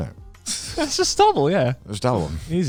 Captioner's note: chuckles